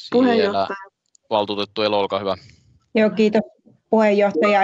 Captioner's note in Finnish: nuijan kopautus